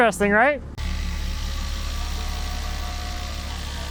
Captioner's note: drill whirring